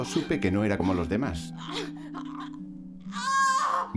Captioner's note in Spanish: gruñiendo; mujer grita